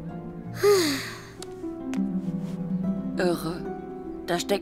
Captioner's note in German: seufzt